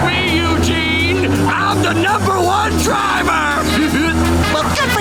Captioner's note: laughing